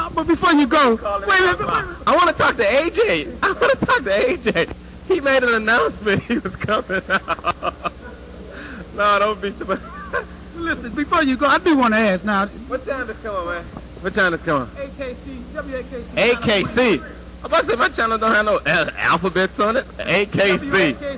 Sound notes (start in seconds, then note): 5.8 laugh